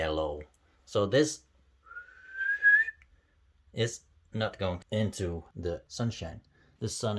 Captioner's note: whistle